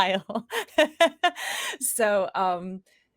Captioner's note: laughs